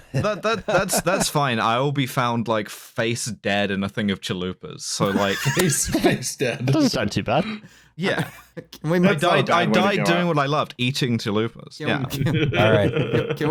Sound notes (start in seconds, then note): 5.0 laughing; 11.8 quietly; 12.0 chuckles